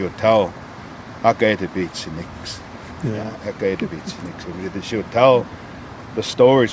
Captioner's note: speaking in Blackfoot